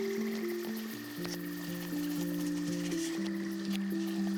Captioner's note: stream sounds